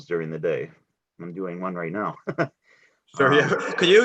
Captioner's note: laughs